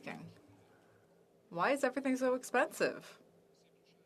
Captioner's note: speaking French